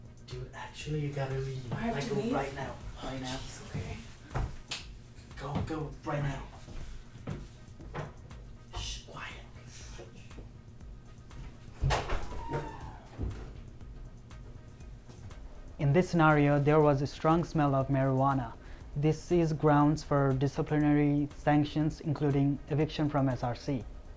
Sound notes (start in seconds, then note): 4.6 clicks fingers; 11.8 door opens